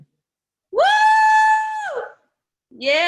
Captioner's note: cheering